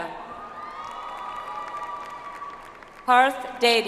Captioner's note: audience applauds